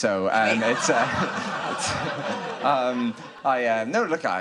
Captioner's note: audience laughing